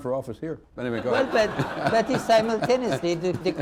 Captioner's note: laughter